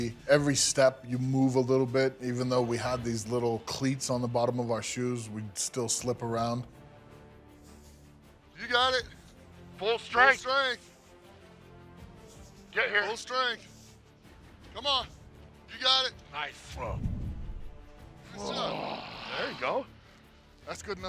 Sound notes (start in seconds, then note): 18.4 growlrowls